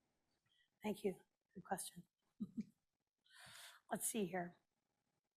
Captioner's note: laughs